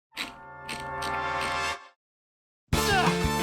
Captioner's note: wheel clicks; grunts